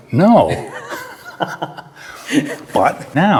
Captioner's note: both laugh